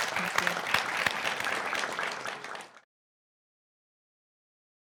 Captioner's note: audience clapping